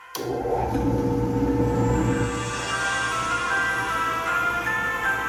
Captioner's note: drill press buzzing; christmas music playing